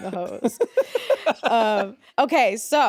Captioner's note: Jacksepticeye laughing